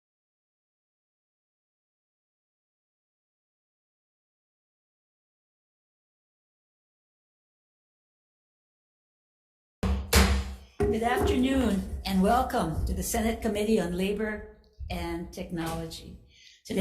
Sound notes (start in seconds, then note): 9.9 gavel thuds